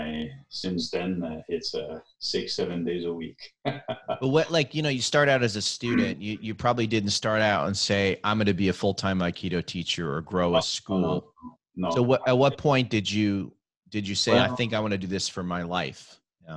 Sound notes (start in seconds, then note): 2.3 laughing